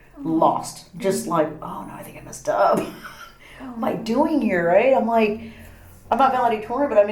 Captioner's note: laughs